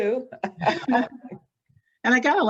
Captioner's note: laughs